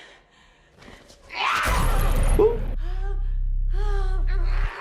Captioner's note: yelling